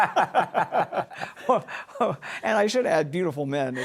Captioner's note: laughter